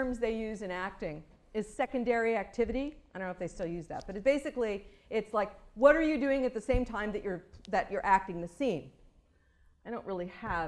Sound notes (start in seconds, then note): none